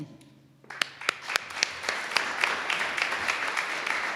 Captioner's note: all applauding